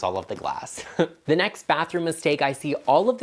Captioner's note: chuckling